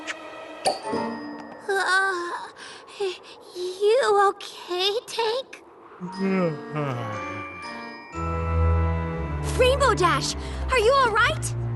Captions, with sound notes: You OK, Tank? [yawn] Rainbow Dash! Are you all right?